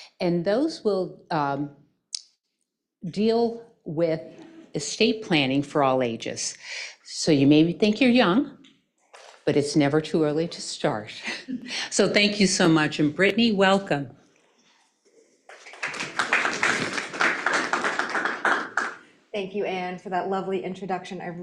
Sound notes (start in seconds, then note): 15.4 audience applauding